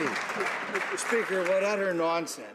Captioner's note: some Applause